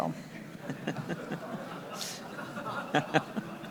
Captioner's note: everyone laughs